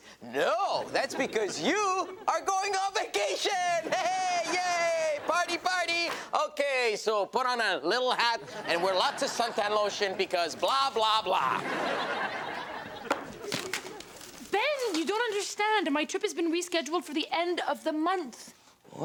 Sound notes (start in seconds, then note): 3.5 audience laughs; 11.5 audience laughs